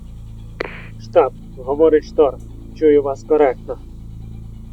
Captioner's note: radio